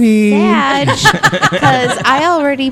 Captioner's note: laugh